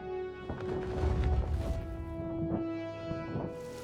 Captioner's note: feathers flap